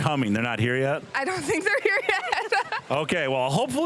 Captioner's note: laughing